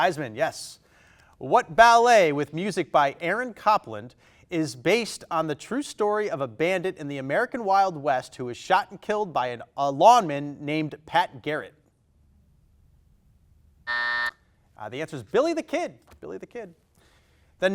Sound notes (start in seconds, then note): 13.8 timer buzzes